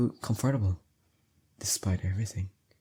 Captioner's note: whispers to self